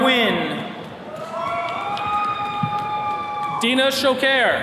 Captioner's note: attendees cheering